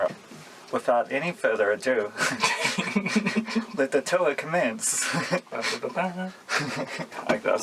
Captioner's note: giggling in trans